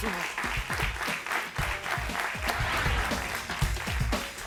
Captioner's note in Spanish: Aplausos